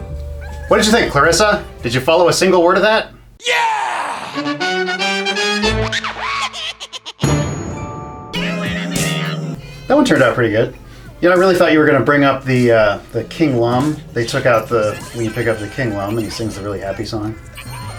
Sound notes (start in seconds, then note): 4.8 a bunch of really wacky cartoon sound effects; 8.3 ending jingle plays